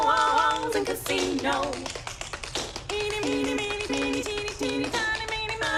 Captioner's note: tap shoes tapping